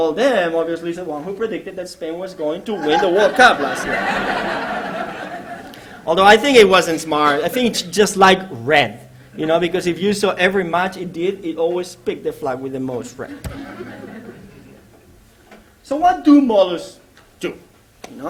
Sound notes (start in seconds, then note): 4.3 laughter; 13.2 laughter